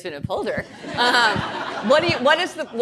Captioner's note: audience laughing